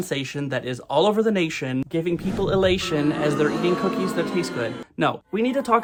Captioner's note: crowd boos